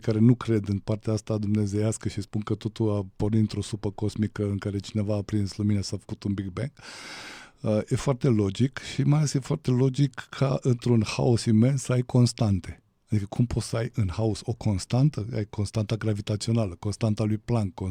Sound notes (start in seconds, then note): 6.8 gasp